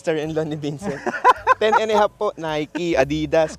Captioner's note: laughs